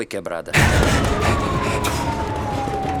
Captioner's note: siren wailing